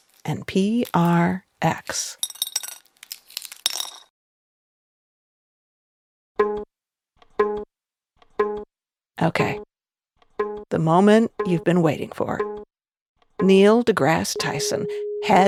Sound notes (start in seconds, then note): 0.0 egg cracks; 2.3 metal clinking